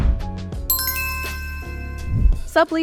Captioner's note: upbeat music; logo chiming